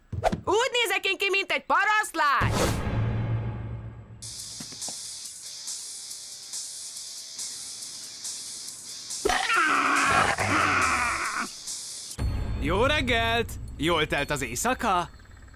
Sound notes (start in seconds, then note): 4.3 rock music playing faintly; 9.3 growling